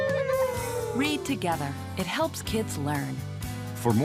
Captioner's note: kids imitate a siren